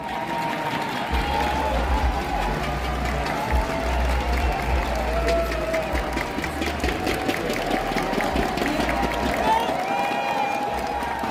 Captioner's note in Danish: Mængden hepper på